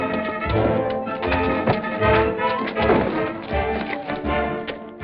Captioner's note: dramatic music; punch thuds